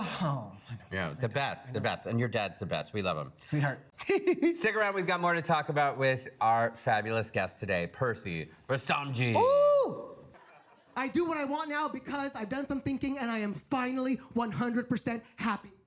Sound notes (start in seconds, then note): 4.0 laughs